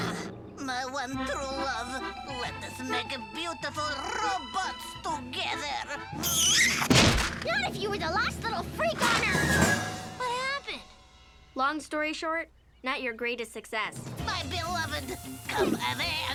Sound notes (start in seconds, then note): 2.5 romantic music; 5.4 lips smooching; 6.6 window slams